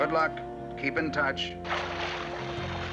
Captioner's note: water splashing